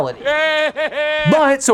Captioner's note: Voldemort laughing